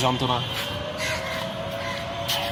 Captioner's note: ominous crow